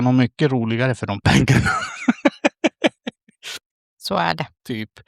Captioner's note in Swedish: skratt